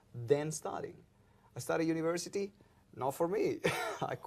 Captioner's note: laughs